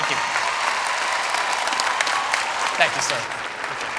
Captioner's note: cheering and applause